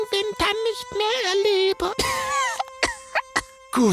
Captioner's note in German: Keuchendes Husten